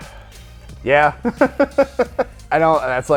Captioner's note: laughs